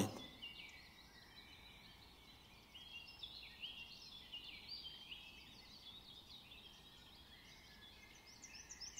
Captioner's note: bird sounds